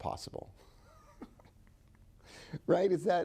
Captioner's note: chuckling